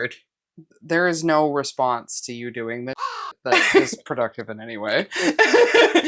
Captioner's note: caw